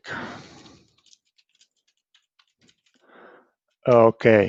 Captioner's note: keyboard clicking